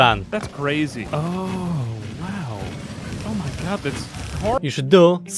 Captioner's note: amphibian noises